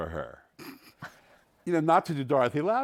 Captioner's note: chuckles